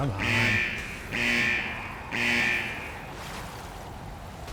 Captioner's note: buzzing